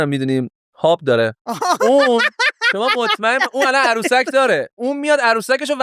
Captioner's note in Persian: خنده